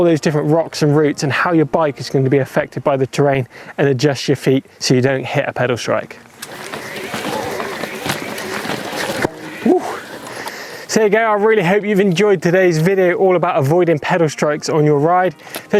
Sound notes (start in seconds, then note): 6.4 bike wheels spinning; 7.1 exhales sharply